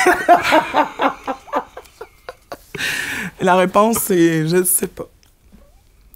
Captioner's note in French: éclat de rire